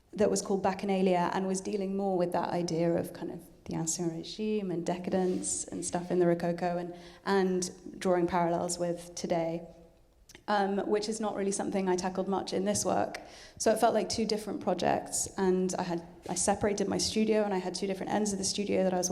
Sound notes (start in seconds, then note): none